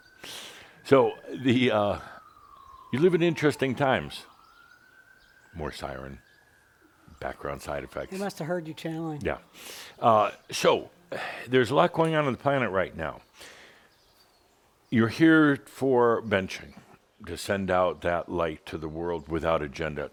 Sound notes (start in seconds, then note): 4.2 sirens continue